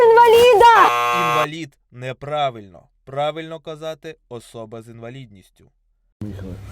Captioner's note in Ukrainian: закадровий голос